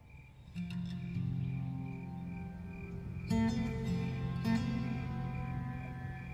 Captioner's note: cricket chirping; gentle classical music